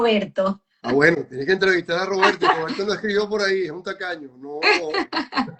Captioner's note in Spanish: risas